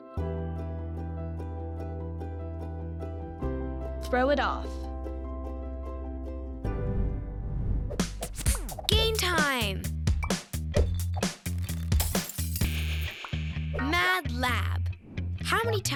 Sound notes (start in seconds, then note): 0.3 soft music; 10.3 glass clinking, shattering